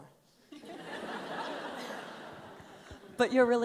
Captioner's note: laughs